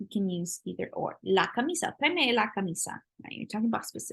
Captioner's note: spanish